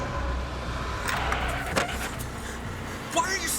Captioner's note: wheel skidding